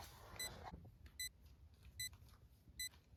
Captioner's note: beeping increases